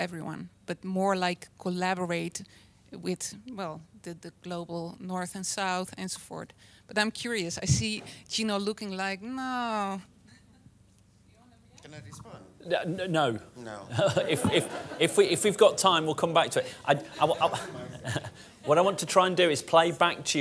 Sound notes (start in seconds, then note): 13.9 laughter